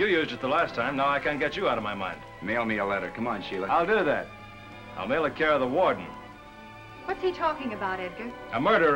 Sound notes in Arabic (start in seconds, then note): 2.7 ببرود